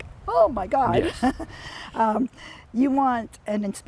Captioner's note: laughs